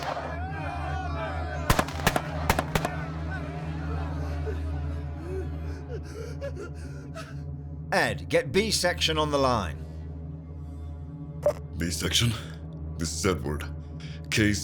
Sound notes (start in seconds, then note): 1.7 commotion; 1.7 gunfire